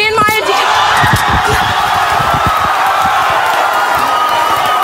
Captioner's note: audience cheering